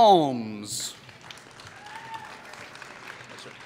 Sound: applause

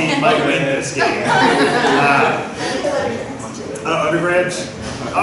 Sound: laughter

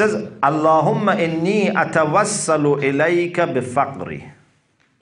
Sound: Arabic

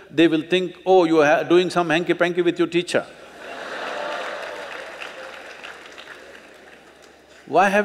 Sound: laughter/Applause

